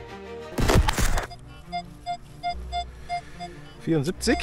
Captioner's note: squeaks